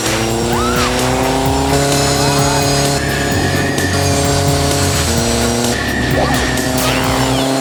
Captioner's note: squealing